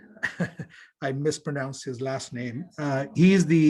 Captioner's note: chuckles